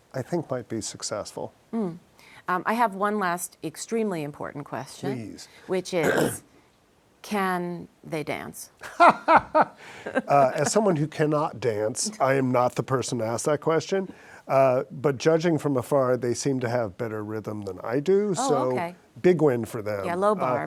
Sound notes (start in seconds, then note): 10.5 laughs